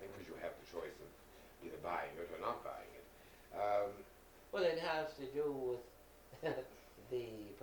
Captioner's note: laughing